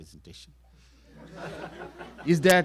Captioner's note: laughter